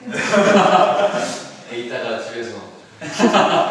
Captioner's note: laugh